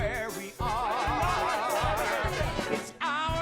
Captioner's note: lively chatter